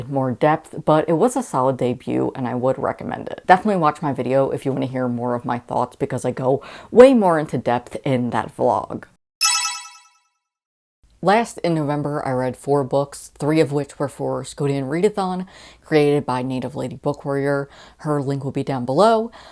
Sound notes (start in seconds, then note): 9.4 sparkle Sound Effect